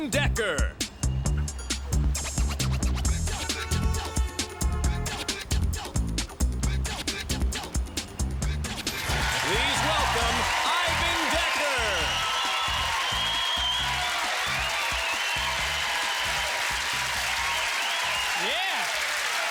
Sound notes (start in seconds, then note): 3.2 horn honks; 12.3 cheers and applause